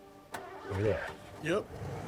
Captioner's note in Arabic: يبدأ المحرك